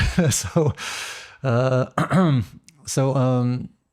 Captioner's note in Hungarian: nevetés